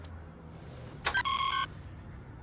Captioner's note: commlink beeps